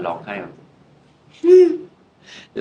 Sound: crying

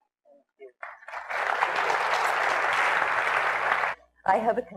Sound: applause

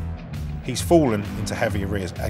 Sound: none

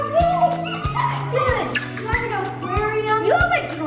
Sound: laughs

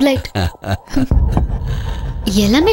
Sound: laughs

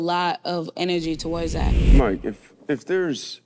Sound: wind whooshes

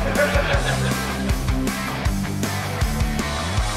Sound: crowd chuckling

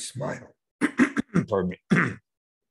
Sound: coughs

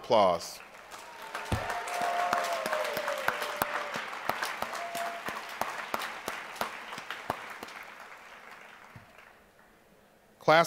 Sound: applause

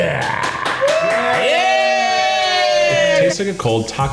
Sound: cheering and applause

